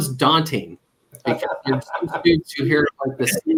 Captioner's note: laughter